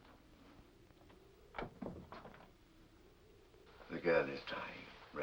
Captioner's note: door closes softly